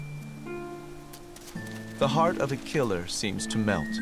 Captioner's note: none